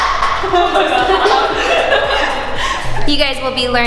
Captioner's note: laughing